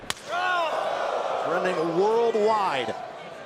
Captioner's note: crowd cheering